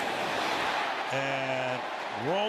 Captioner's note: cheering